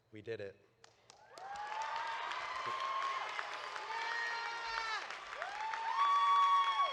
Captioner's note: audience applauding; audience cheering